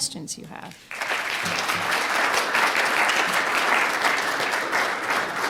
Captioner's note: audience applauding